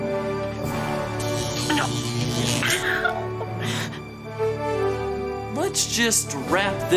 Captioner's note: electric sparks